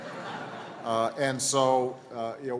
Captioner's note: laughter